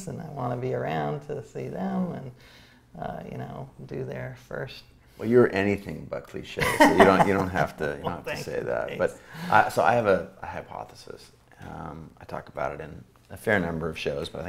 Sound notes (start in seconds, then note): 6.6 A.J. laughs